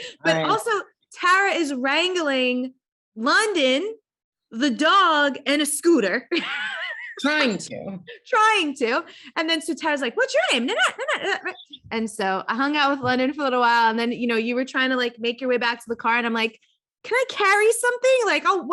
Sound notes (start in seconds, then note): 6.7 laughing